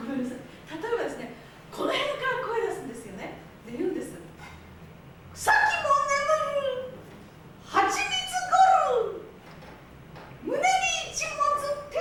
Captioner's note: speaking Japanes